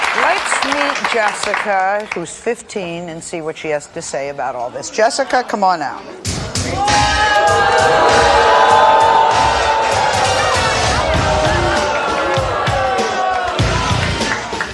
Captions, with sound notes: - Let's meet Jessica, who's 15, and see what she has to say about all this. Jessica, come on out. (upbeat music) (audience hollering)